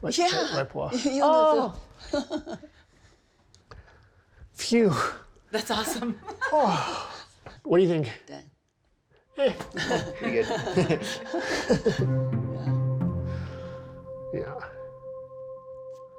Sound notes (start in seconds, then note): 1.1 speaking in Chinese; 5.9 all laughing; 6.4 sighing; 9.3 pensive music; 9.4 all laughing